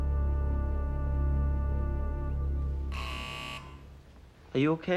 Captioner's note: footsteps creaking